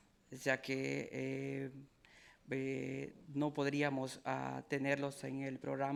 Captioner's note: speaking in foreign language